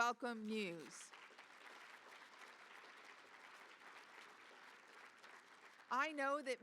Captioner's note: applause